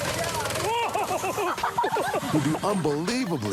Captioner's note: laughter